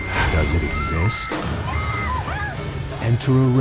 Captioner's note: woman screaming